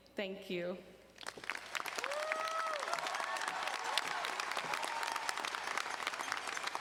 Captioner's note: audience cheering and applauding